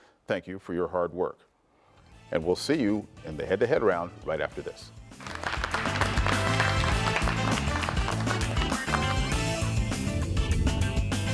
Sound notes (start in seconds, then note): 5.2 attendees clapping; 8.4 lively music